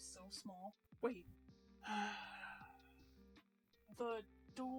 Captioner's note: long sigh